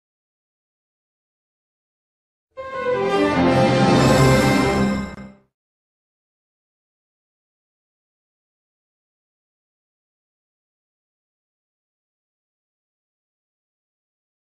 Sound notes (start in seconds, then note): 2.6 orchestral music playing; 6.4 silence